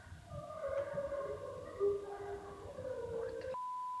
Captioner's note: faint crying far away